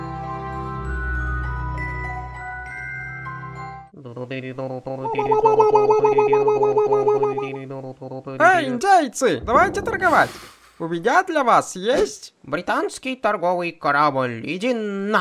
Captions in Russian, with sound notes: *индейские звуки* Эй, индейцы! Давайте торговать! У меня для вас есть... Британский торговый корабль, иди на...